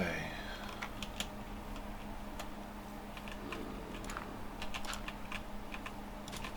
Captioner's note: typing